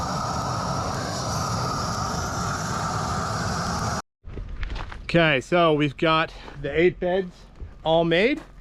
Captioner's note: drilling